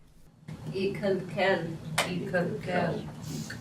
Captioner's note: speaking Salish language; class speaking Salish language